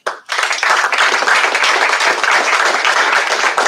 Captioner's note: applause